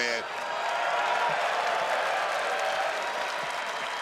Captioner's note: crowd cheering